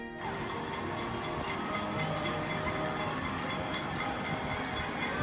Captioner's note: people clapping and cheering